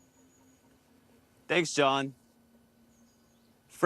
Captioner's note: distant birds calls